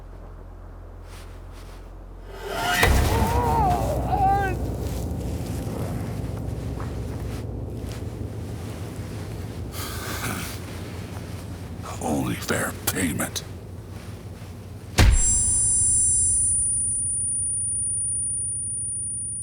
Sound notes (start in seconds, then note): 2.3 soldier moans; 2.9 dramatic music; 15.0 suspenseful music